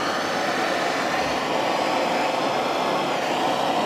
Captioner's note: whirling flame